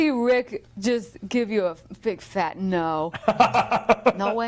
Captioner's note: laughing